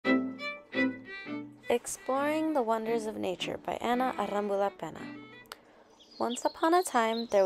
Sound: bird tweeting noises

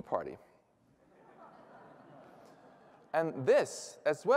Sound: laughter

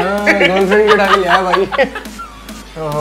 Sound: laughs

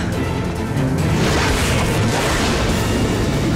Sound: tail whipping

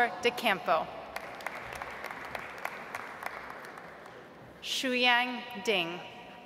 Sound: audience applauds

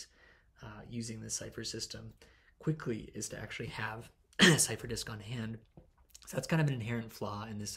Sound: cough

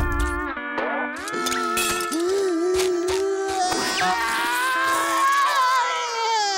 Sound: crying

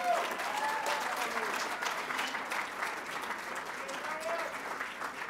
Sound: applause

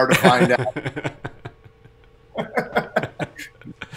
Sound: laughs

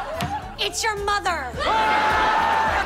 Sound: screaming

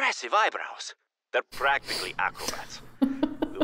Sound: laughs

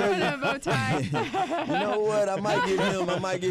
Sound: laughter

